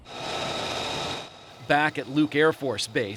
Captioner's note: engine whirs